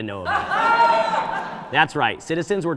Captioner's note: audience laughing